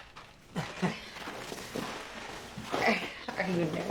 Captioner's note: Peter chuckles